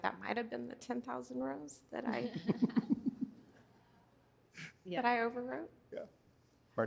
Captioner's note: laughter